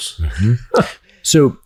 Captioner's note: chuckles